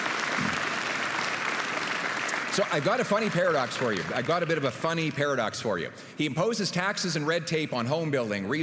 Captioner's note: applause